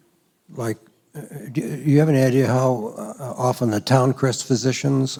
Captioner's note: voiceover